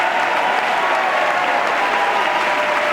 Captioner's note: laughter and applause